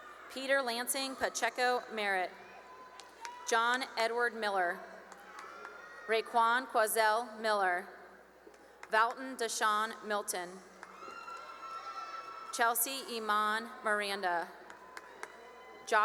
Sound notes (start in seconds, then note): 2.4 cheering and applause; 5.0 applause; 8.0 applause; 10.8 cheering; 14.1 cheering and applause